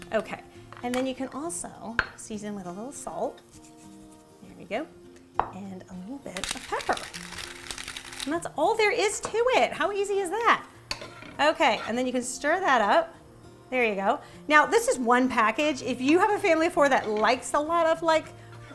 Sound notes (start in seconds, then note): 7.0 grinding